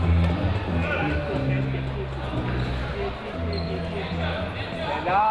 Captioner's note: audience chattering